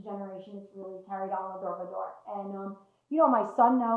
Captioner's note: hebrew